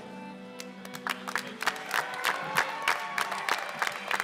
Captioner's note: applause